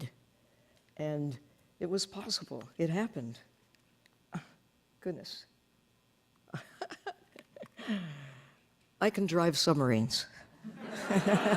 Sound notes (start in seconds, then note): 6.5 laughing